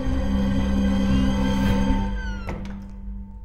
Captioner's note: Door opens and closes